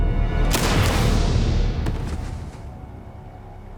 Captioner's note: gunshot